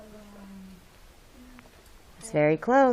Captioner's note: student chatter